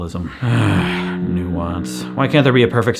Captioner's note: distorted low pitched moan